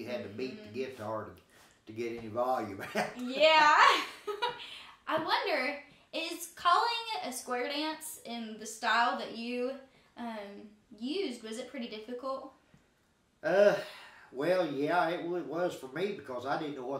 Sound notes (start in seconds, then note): 2.8 laughing; 13.6 sighing